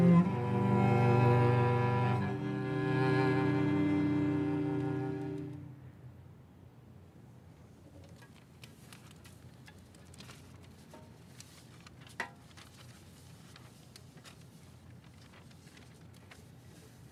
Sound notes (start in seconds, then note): 0.0 somber music continues; 8.2 sheet music shuffling